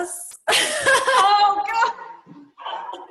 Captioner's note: laughs